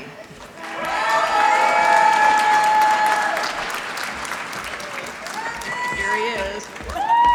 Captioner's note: applause